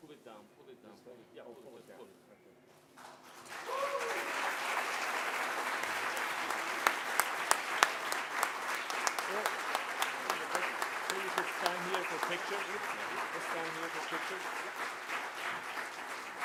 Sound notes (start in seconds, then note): 3.0 applause